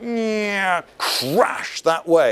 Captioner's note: falling noises